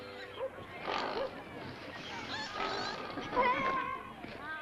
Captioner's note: pigs snort; background chatter